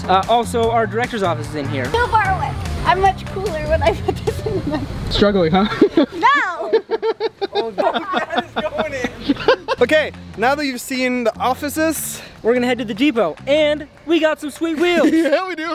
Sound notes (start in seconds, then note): 5.6 everyone laughing